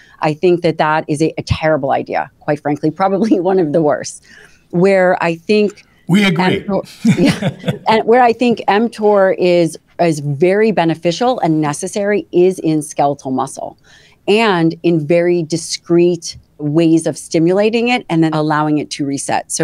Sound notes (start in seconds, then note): 6.9 both laugh